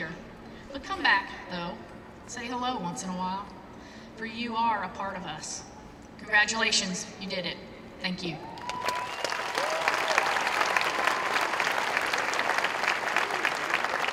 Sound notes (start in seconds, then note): 8.5 applause